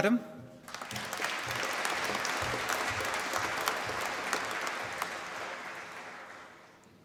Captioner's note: applause